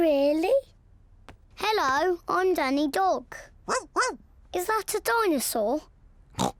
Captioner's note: barks; snorts